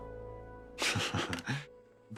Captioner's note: chuckles